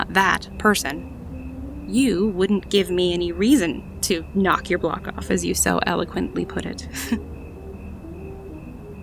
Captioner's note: light chuckle